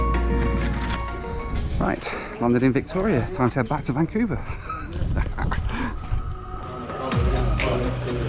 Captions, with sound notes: Right, landed in Victoria, time to head back to Vancouver (laughs)